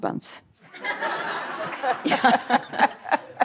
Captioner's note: laughter